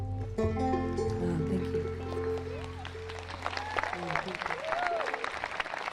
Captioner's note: audience clapping